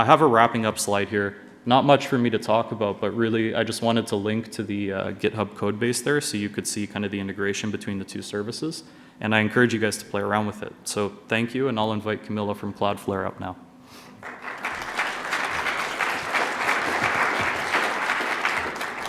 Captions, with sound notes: I have a wrapping up slide here. Not much for me to talk about, but really, I just wanted to link to the GitHub code base there so you could see kind of the integration between the two services, and I encourage you guys to play around with it. So thank you and I'll invite Kamilla from Cloudflare up now. [APPLAUSE]